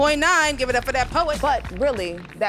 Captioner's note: audience applauding